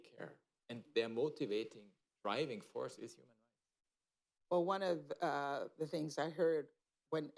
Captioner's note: off mic